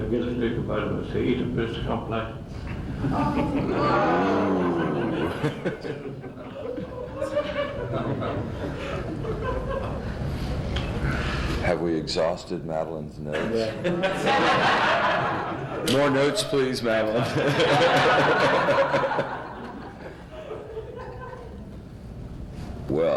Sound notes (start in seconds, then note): 3.0 groaning and laughter; 13.3 laughter; 13.8 much laughter; 20.0 tumultuous laughter